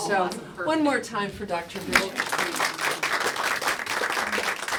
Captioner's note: applause